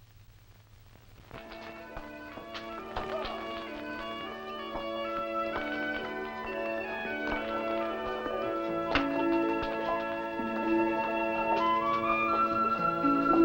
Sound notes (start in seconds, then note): 1.1 light music; 1.3 rock clattering